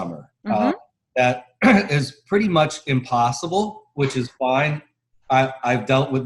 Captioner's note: cough